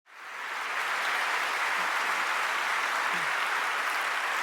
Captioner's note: applause